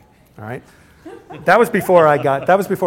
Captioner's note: laughter